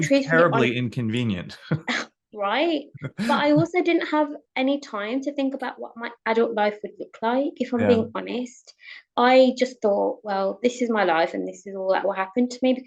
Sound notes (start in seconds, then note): 3.0 chuckles